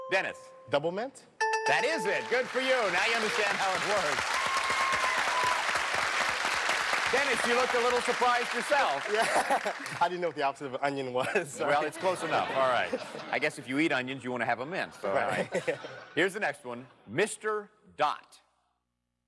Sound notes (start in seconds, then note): 0.0 dings; 4.8 applause